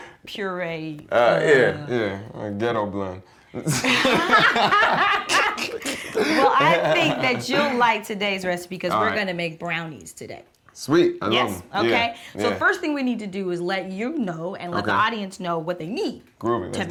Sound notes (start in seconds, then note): 0.1 laughs; 3.6 laughter